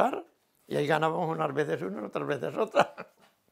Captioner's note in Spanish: ríe